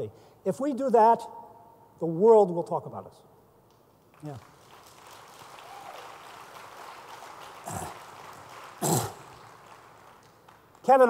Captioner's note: applause